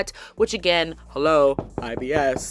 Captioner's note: knocking